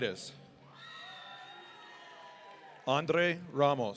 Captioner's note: audience cheering